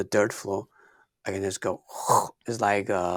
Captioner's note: gurgling